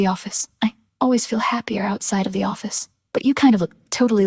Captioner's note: female voice 1